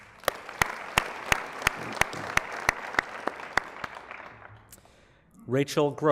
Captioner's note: applause